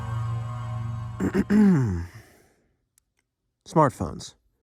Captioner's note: clears throat